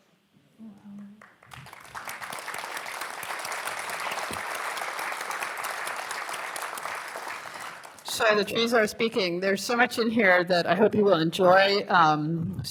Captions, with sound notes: [ Applause ] So, "The Trees Are Speaking." There's so much in here that I hope you will enjoy.